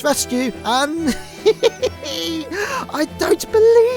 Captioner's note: chuckles